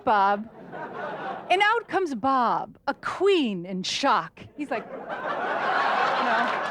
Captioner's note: audience laughter